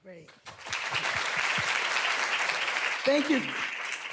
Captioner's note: applause